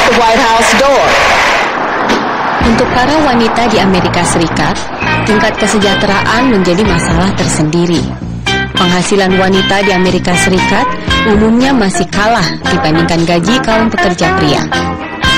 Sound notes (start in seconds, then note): 7.6 non-english speech